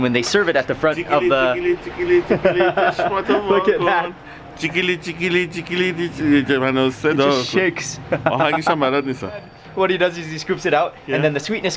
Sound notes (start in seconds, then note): 2.2 laughs; 4.5 speaks in foreign language